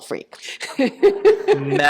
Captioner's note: laughter